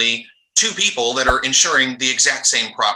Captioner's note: quick transition sound